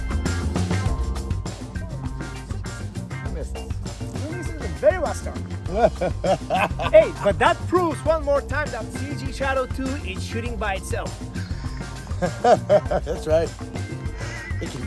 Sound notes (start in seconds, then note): 5.6 laughs; 11.3 both laughing